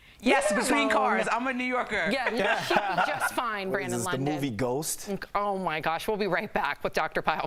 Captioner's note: laughter